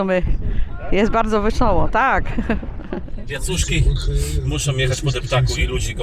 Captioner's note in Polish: śmiech